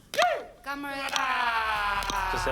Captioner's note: speaks indigenous language